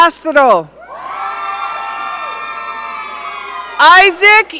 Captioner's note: audience cheering